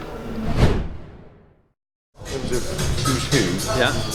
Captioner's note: air whooshing